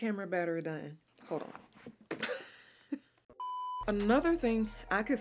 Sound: chuckling

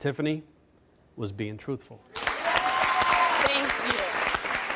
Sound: audience clapping

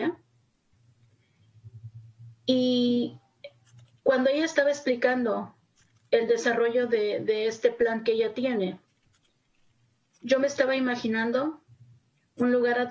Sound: speaking Spanis

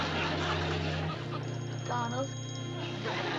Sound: ringing

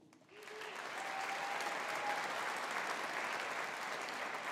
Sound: audience applauding

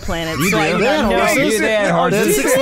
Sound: laughter

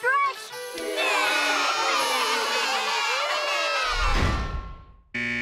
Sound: crying; buzzing

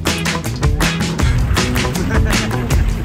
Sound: laughing

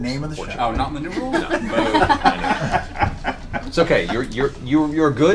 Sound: all laugh

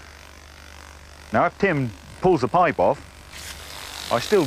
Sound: water spraying

